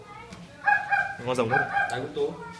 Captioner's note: My Inu Shiba barks